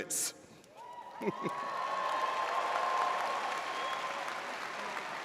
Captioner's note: audience cheers